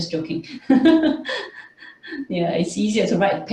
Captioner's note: chuckles